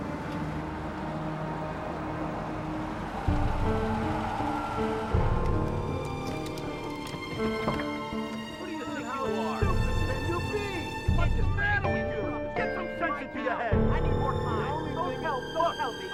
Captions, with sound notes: (all shouting) - How stupid can you be? What's the matter with you? Get some sense into your head. - I need more time. Don't tell me!